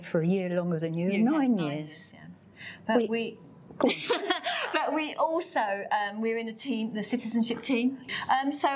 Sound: laughs

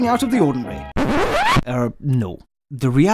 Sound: record scratch sound

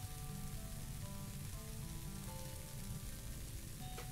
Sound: sizzling

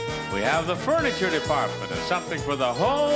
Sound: bell rings

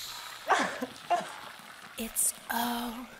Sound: sobs

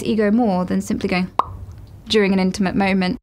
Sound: pops lips

